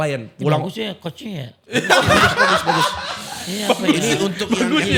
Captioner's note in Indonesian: tertawa